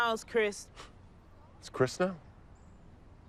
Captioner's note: scoffs